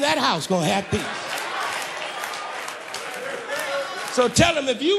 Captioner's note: applause